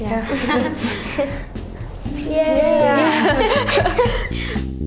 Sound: cheering and laughing

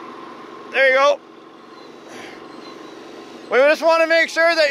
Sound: sighs

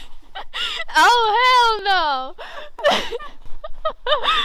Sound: laughs

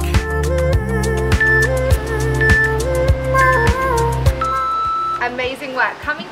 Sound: waves whooshing; timer beeping

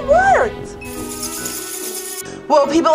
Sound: bats screeching

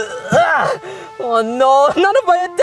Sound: Luigi grunting

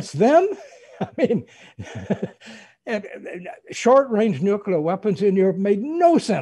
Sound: laughs

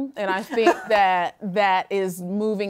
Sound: laughter

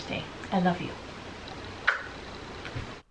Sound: smooch

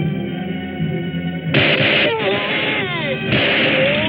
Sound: gunshots

